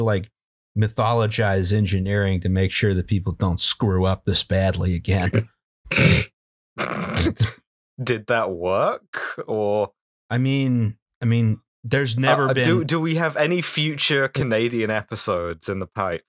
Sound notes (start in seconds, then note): 6.3 laughter